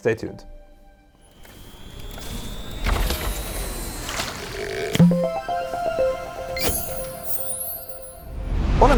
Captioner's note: playful chime